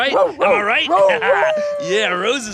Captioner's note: rose barking